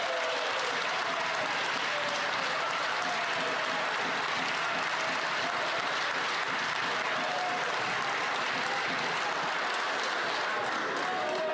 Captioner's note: some Applause